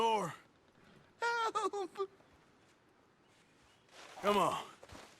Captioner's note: sobs